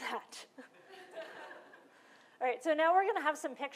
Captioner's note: laughter